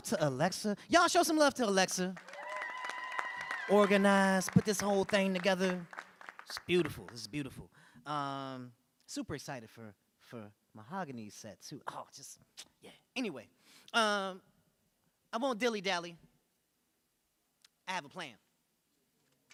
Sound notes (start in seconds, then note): 2.1 audience cheering and applauding